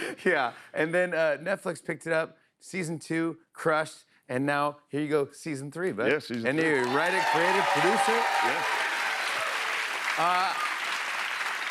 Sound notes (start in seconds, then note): 0.0 laughter; 6.5 cheers and applause; 9.5 applause